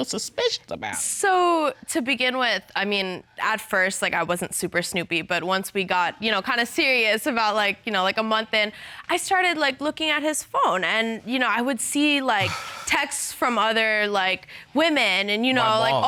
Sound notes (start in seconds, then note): 12.4 sighs